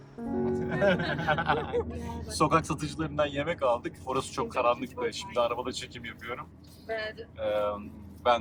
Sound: laughter

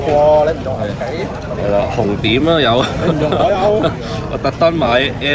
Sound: laughs

